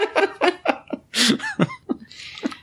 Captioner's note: laughter